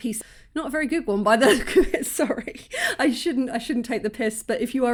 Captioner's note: laughing